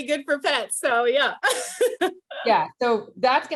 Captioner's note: laughs